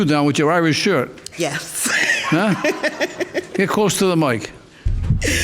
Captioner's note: laughs